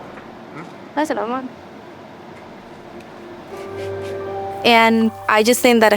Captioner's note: speaks Spanish